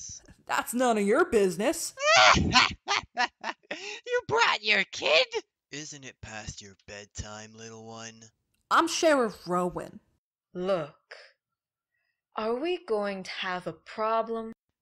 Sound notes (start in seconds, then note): 2.0 laughs